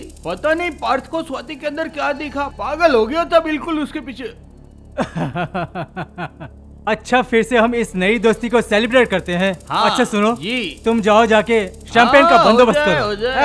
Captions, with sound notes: I don't know how Parth got attracted to Swati. [Laughs] Well, let's celebrate this reunion. Brother-in-law.. - Yes. - ..go and arrange champagne. - Okay.